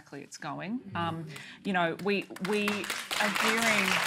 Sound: applause

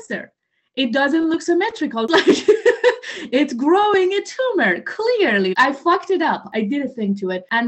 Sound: laughter

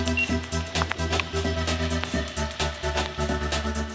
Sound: rod beeping

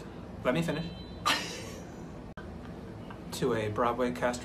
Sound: laughter

